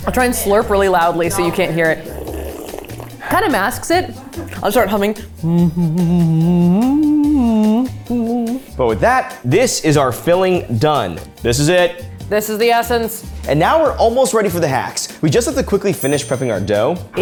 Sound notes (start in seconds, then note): 2.4 slurping; 5.1 humming